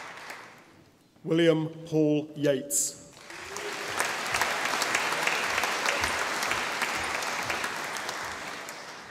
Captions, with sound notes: William Paul Yates (audience applauding)